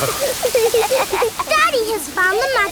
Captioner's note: laughing